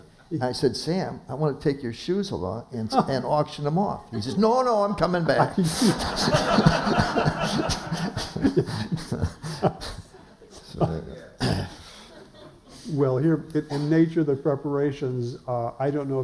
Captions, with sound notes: I said Sam, I want to take your shoes along and auction them off. He said, "No, no, I'm coming back." [laughter] - Well here, the nature of the preparations, I don't know